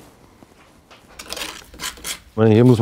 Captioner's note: grinding